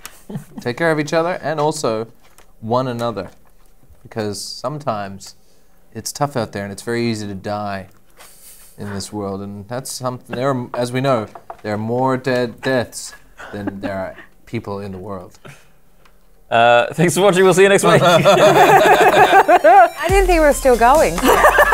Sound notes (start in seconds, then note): 17.9 laughter; 21.2 laughter